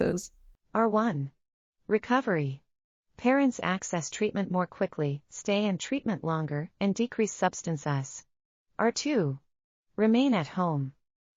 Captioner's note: audio Description being read